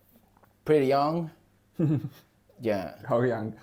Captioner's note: laughs